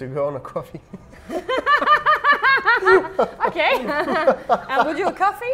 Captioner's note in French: rires